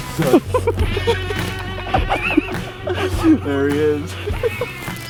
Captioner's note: laughing